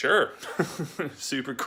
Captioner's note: laughs